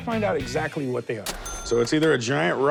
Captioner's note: cash register ring